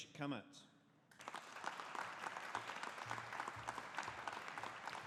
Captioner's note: audience applauding